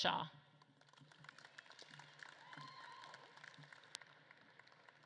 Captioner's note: audience claps and cheers